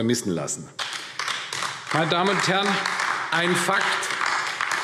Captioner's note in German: Beifall AfD